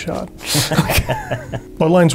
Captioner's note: laughter